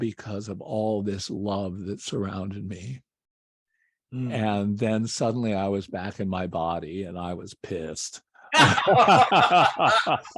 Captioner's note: laughter